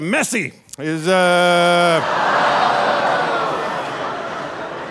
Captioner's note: audience laughing